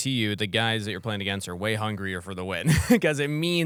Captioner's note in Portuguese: risos